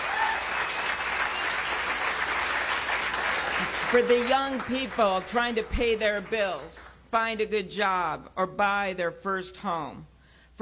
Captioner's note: cheers and applause